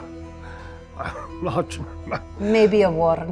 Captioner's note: laughs